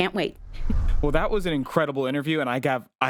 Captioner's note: scene swooshing